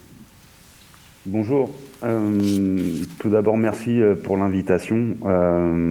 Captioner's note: speaking in French